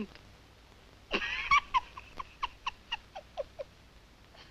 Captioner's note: laughing